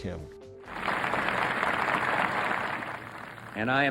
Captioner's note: applause